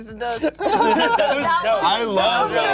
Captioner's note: cast laughs